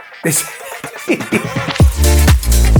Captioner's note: laughing; upbeat music